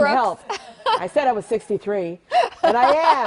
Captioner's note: laughter